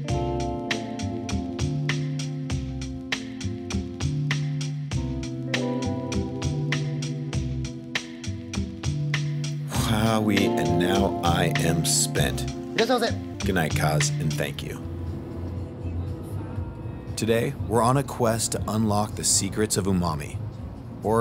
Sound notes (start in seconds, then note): 0.1 relaxing music; 12.6 speaking in Japanese